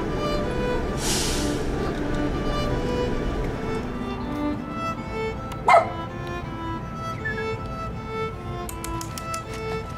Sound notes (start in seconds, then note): 5.6 bark; 7.1 whistle; 8.8 tongue clicks